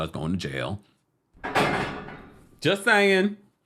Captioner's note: bars clink